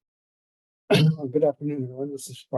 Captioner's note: clears throat